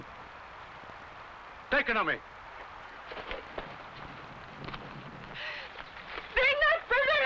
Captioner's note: shouting in foreign language